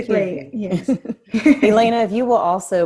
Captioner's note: both laughing